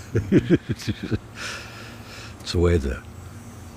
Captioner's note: laughing